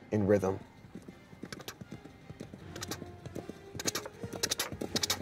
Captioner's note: horse gallops